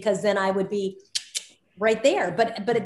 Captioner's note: Soledad clicking tongue